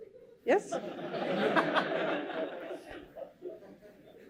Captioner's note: laughter